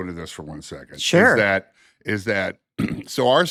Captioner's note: clears throat